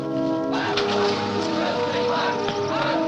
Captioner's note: engine starts